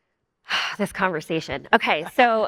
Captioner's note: sighs